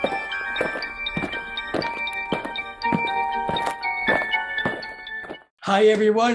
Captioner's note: eerie music; aliens marching